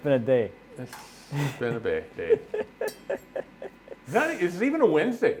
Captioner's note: laughing